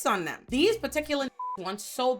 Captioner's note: beep